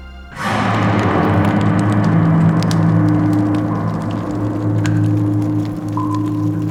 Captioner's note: dramatic music; fire crackling